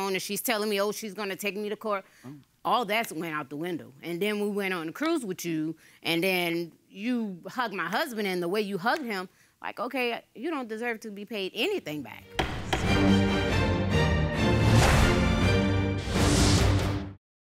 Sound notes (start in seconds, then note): 12.3 dramatic music; 12.3 judge's gavel pounds